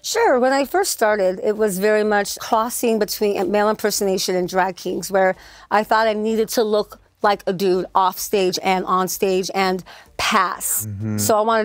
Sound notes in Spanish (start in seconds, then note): none